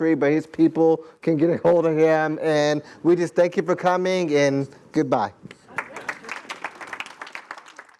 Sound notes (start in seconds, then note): 5.6 applause